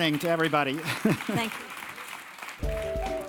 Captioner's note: laugh; applause